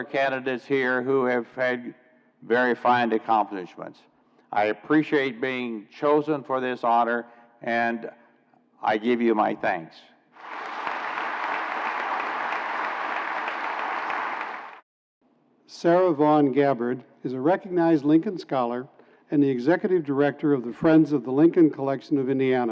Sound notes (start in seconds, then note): 12.1 applause